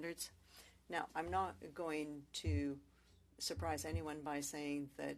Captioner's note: speaking French